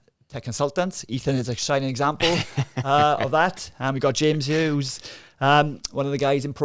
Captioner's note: laughing